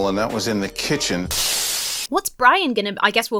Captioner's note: glass shatters